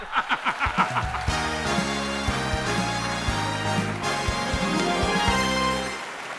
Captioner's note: audience applauding; exciting music